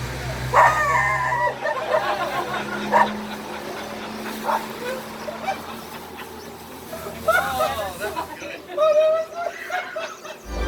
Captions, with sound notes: (dog barks) (all laugh) - Oh that's good.